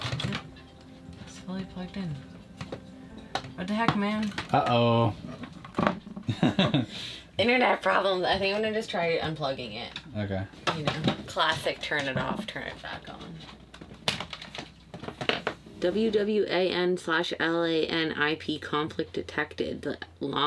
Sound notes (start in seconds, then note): 6.2 man laughing